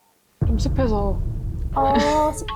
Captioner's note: Picky sound effect